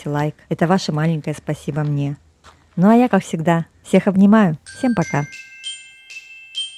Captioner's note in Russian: колокольчик